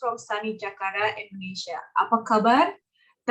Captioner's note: speaks foreign language